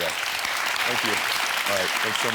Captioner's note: audience clapping